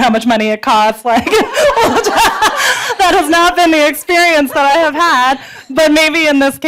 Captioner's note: laughs